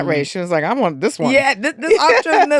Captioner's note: laughing